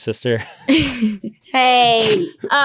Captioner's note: laughing